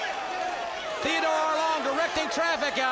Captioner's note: crowd chatter; crowd cheering